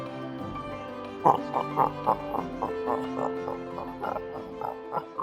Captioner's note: grunts of joy